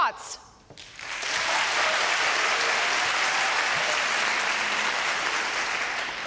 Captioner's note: applause